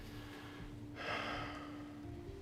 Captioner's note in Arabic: تنهدات